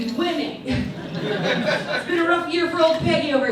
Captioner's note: audience laughs